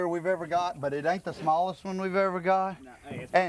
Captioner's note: none